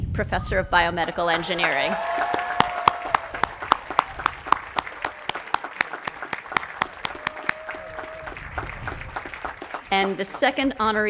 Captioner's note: cheering and applause